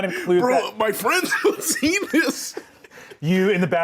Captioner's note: laughs